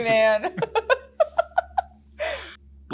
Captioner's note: laughs